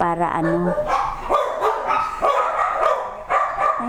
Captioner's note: dogs barking pa more